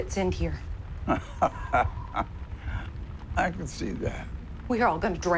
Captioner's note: laughs